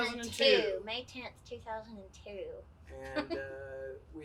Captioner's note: giggles